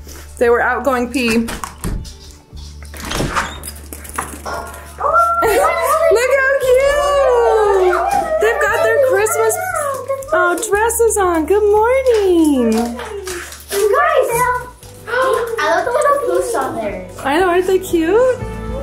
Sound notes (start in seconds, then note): 2.9 door creaks open; 7.2 children chatter excitedly; 14.8 gasps